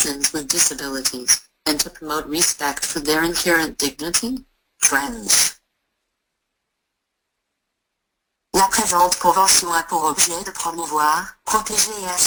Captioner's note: speaking in French